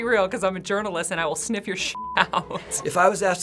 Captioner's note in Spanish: pitido; risas